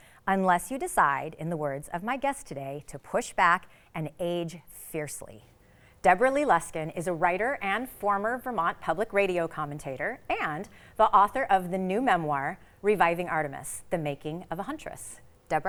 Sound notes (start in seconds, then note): none